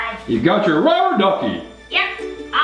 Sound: voiceover

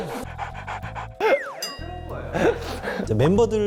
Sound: laughing

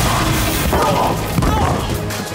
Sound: groaning

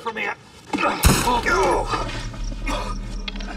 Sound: gun firing; heavy breathing

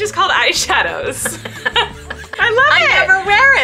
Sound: both laughing

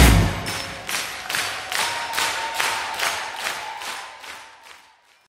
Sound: crowd cheering; everyone clapping

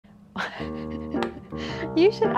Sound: upbeat music; breathy laughing

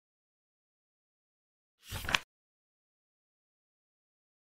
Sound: page flip sound

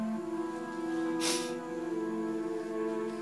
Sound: Jennifer sniffles

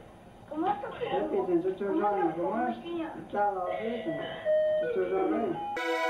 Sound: speaking in foreign language; light music

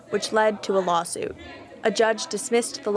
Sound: protesters chant

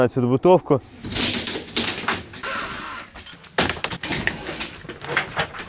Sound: construction sounds

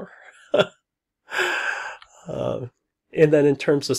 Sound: laughs

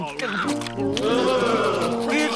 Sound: gagging

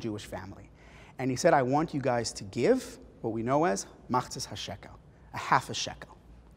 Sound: Hebrew

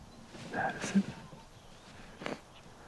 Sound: sniffles; whispers

